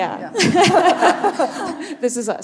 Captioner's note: audience laughing